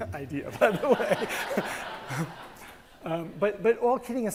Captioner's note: attendees laugh